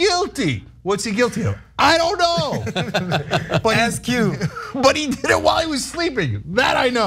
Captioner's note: laugh; laugh